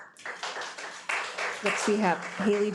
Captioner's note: audience applauding